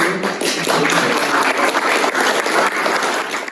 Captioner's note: applause